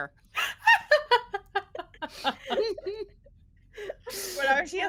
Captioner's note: everyone laughs